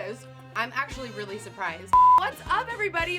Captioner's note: beep